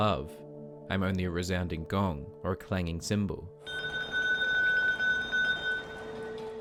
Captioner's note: Sister Calderón rings her bell